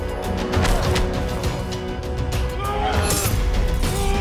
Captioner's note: all shouting